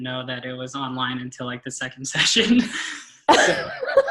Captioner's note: everyone giggles; laughs